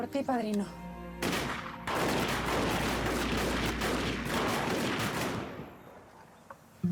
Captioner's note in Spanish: detonaciones de disparos